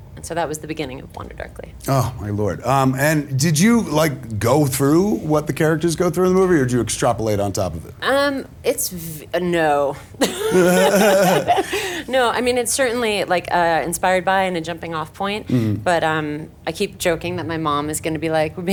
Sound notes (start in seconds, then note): 10.2 laughing